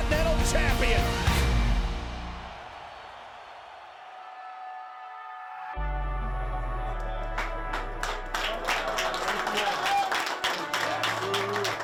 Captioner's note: applause